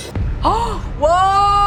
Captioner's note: gasps